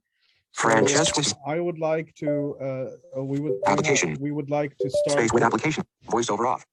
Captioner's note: VoiceOver on and off in the background